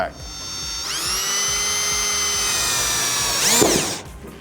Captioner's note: drill whirring